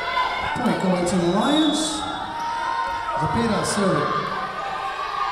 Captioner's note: whistle blowing